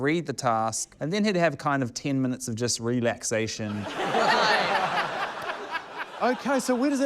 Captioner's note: laughter